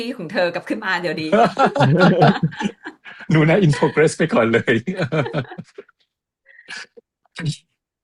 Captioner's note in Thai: เสียงหัวเราะ